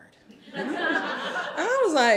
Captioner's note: audience laughing